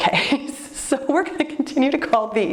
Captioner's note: laughs